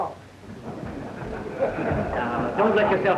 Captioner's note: audience laughs